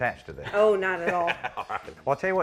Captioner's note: chuckles